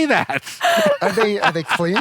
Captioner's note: laughs